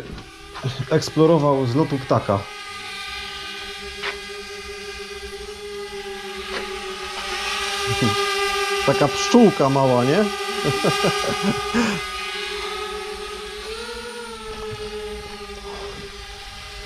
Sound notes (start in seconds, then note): 3.0 drone noise; 10.5 laughs